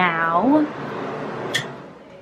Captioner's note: turns off bathroom fan